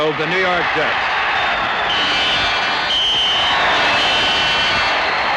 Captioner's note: whistles blowing